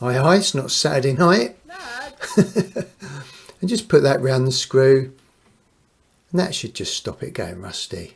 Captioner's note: wife shouts